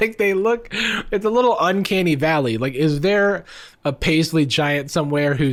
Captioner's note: none